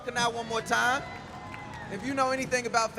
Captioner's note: crowd cheering